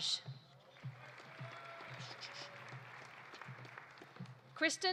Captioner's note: audience applauding